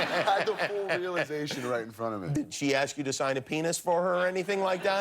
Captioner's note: laughter